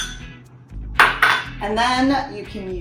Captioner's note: glass bowl clanking against countertop